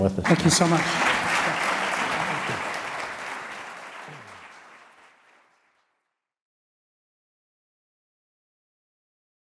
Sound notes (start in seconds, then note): 0.2 crowd applause